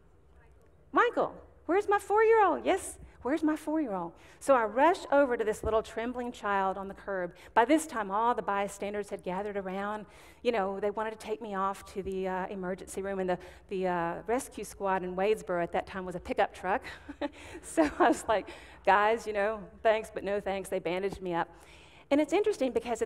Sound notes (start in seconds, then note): 16.9 chuckling